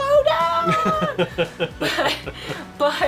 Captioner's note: laughter